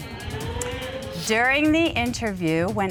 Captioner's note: audience exclaims